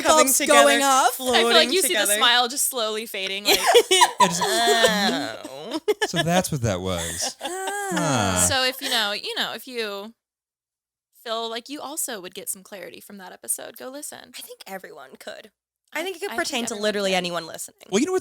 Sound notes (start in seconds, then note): 3.2 all laughing